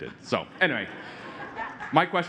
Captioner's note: laughter